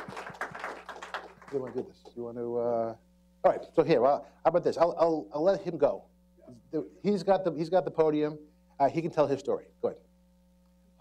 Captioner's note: applause